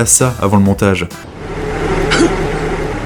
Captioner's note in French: Bruit de vent